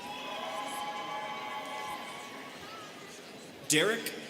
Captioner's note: students cheering